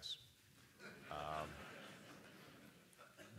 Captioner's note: laughter